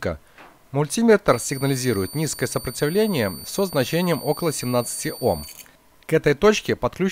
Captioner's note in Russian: звучит писк в режиме «прозвонка»